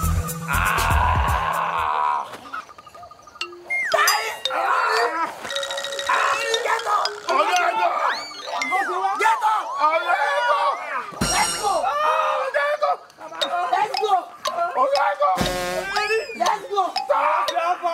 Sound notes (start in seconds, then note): 15.8 henchmen whimpering